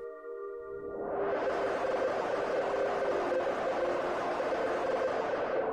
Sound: computer Generated Sound

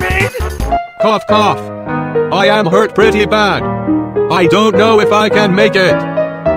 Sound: cough cough

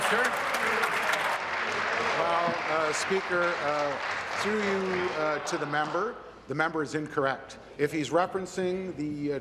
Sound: applause

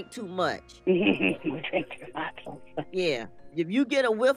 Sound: chuckling

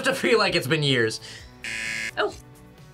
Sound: buzzer

